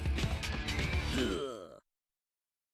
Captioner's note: Daffy grunting